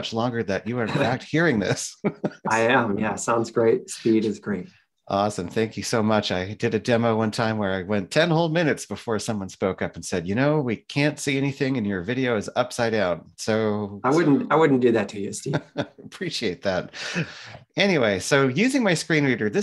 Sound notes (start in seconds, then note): 1.7 laughs; 15.3 laughs